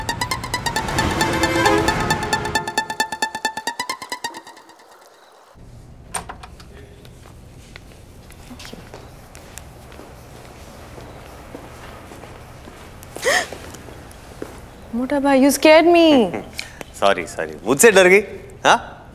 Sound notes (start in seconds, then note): 6.1 Door opens